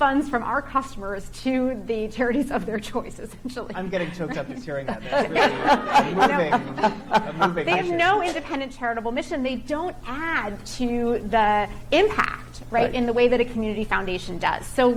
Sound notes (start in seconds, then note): 3.9 chuckling; 6.5 laughter drowns out speech